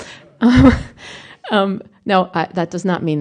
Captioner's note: laughter